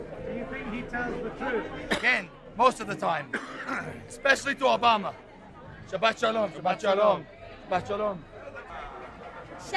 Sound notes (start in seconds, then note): 0.0 talking in foreign language; 0.9 voiceover